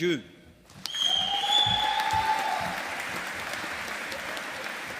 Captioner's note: audience applauding